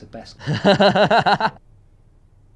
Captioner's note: laushs